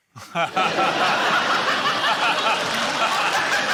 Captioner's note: laughter